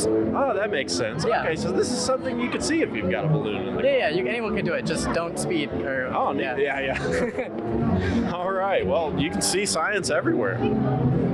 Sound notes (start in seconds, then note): 6.7 laughs